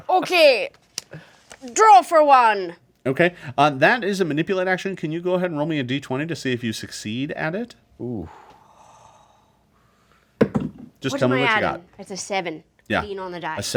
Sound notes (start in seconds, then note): 10.4 dice thud